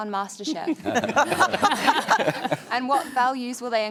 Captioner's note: laughter